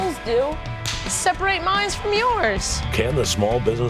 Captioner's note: claps